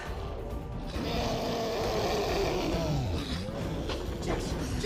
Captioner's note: sphinx roaring